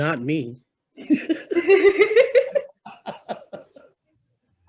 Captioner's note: both laugh